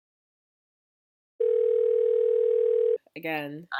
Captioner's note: phone ringing